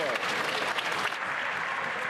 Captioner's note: some Applause